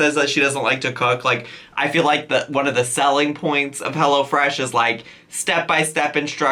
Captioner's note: none